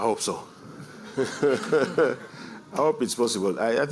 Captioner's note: chuckling